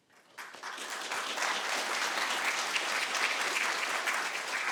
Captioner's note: audience applauding